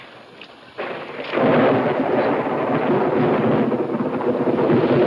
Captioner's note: thunder claps